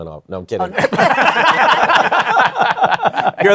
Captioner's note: laughter